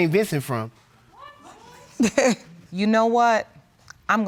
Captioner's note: chuckles